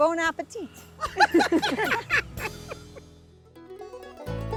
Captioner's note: group laughing; upbeat music